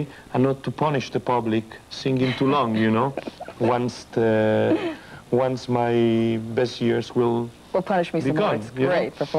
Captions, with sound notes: and not to punish the public singing too long, you know? [laughter] Once my best years will become-- Will punish me some more. It's great performances.